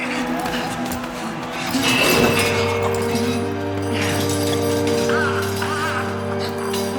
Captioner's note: somber music; man grunting